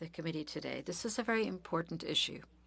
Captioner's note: speaking French